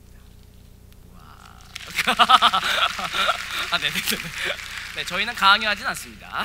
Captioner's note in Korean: 박수